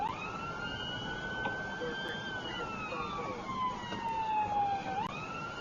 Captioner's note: police car siren